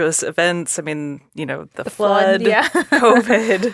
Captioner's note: laughs